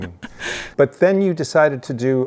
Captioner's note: chuckles